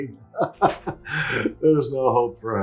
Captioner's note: Peter laughing